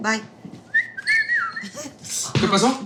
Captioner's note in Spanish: Silbidos